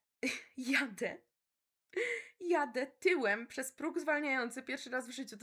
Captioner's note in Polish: śmiech